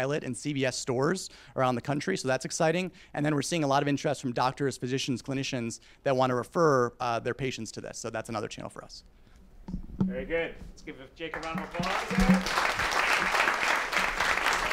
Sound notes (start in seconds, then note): 11.2 applause